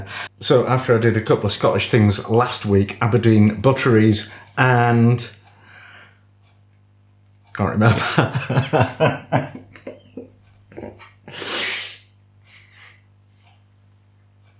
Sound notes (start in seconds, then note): 8.0 laughing